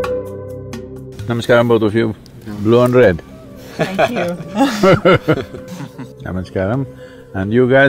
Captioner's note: laughter